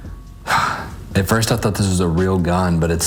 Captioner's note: sighing